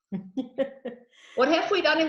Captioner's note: laughing